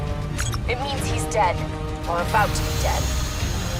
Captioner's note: kane over radio